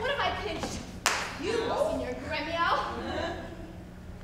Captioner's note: fist smacks